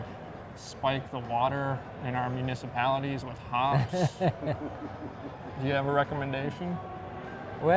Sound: laughing

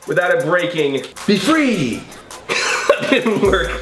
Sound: laughs

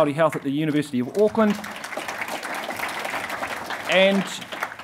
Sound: audience applauding

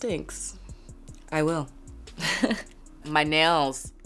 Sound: laughs

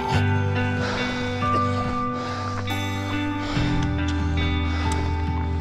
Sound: breathing heavily

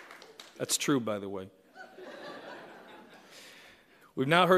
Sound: laughter

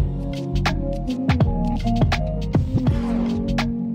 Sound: none

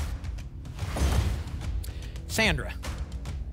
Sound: thump; whoosh

